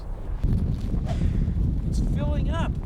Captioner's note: rumbling